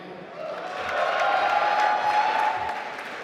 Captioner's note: applause